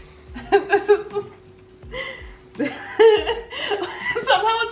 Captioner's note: laughing quietly